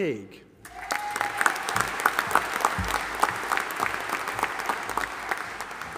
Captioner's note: audience applauding and cheering